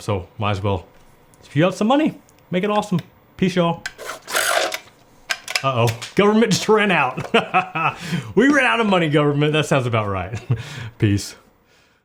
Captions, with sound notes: So, might as well, if you have some money, make it awesome. Peace, y'all. (machine whirs) Oh, oh, government just ran out. (laughs) We ran out of money, government, that sounds about right. Peace.